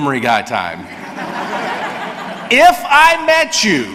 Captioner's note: audience laughs